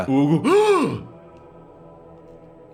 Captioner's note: gasps